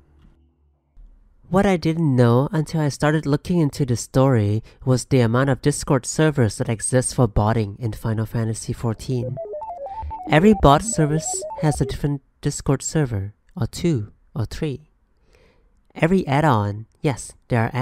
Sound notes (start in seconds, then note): 9.0 robotic beep boop noise